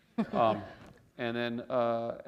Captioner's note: chuckle